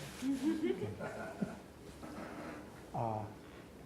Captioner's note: laughs